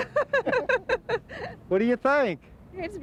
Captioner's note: laughing